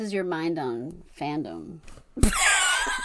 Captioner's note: wheeze laughs